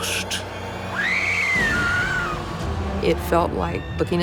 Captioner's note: screams